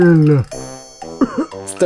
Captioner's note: innocent cough